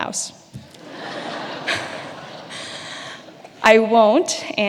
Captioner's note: audience laughing